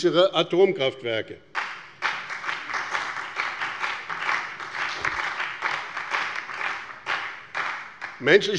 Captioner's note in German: Beifall bei dem BÜNDNIS 90/DIE GRÜNEN und bei Abgeordneten der SPD